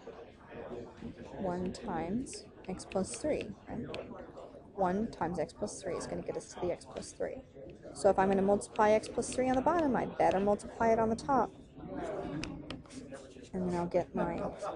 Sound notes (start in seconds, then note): 0.3 chatter; 12.7 tapping